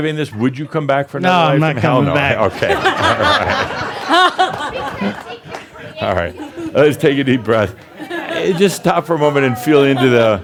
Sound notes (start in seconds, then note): 0.0 more chuckles; 2.8 laughter